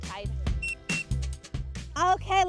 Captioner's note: whistling